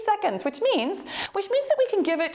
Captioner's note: timer beeps